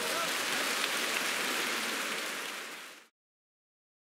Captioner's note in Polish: aplauz